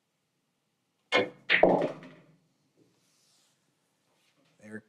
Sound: balls clanging

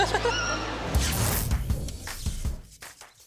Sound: laughs

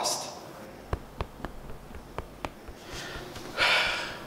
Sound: tapping; sighing

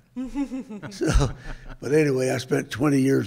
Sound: chuckles

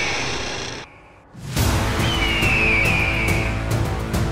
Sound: birds calling

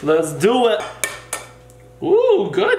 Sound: egg tapping on bowl

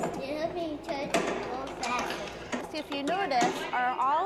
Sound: none

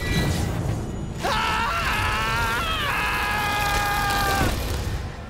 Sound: screaming

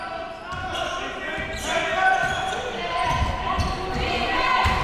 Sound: crowd cheering

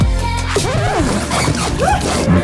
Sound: record scratch

